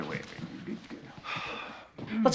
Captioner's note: sighs